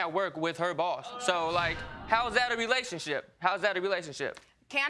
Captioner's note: audience exclaiming